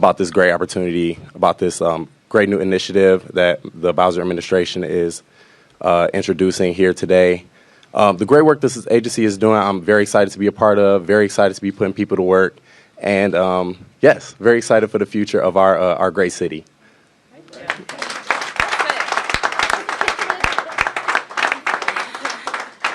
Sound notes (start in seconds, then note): 17.5 applause